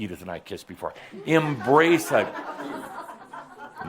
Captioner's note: some chuckles